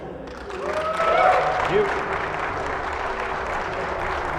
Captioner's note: applause